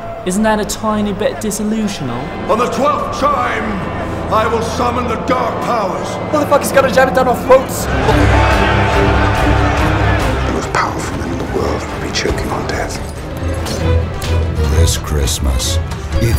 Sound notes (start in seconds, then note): 2.9 shouting; 8.1 crowd roars in anger